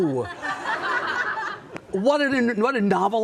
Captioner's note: audience laughing